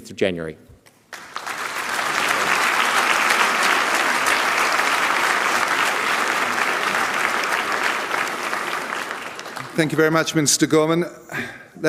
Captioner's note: applause